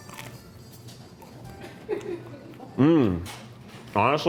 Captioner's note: crew member chuckles